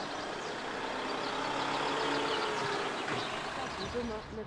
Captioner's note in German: Vogelzwitschern